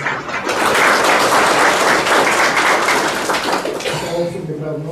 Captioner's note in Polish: oklaski